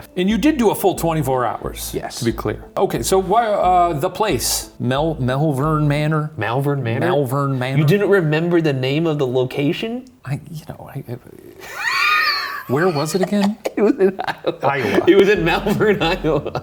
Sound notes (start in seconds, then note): 11.6 laughing